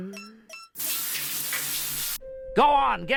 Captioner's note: water splashing